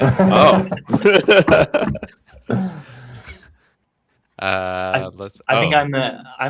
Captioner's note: laughter